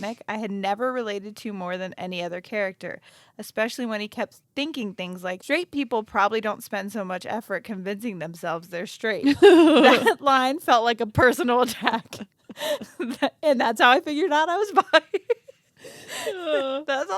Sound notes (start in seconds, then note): 9.3 laughs; 12.7 both laugh